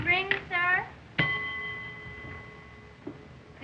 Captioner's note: harpo rings bell